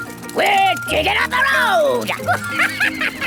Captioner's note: chuckles